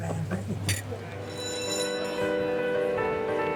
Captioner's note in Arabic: رنين الجرس